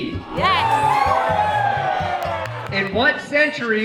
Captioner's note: patrons cheering